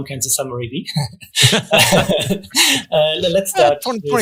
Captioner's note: both laughing